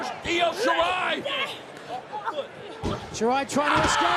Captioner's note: crowd chatter